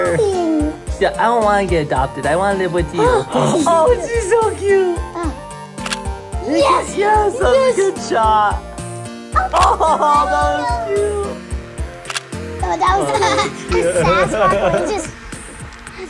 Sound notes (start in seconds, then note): 5.7 camera shutters